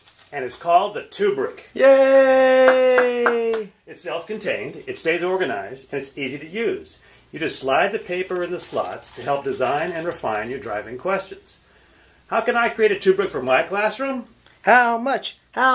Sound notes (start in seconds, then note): 2.4 narrator clapping